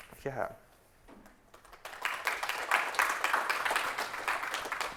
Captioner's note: audience clapping